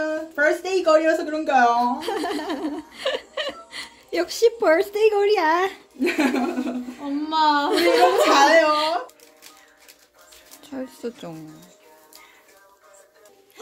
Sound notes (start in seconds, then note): 7.6 laught